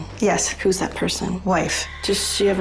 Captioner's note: none